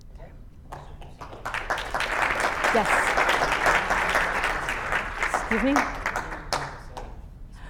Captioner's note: clap